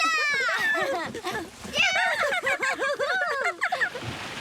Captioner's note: giggling